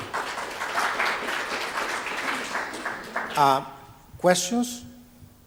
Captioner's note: audience applauding